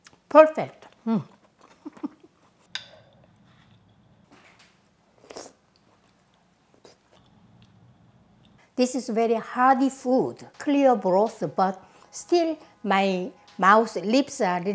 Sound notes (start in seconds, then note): 1.7 laughs; 5.2 lips slurping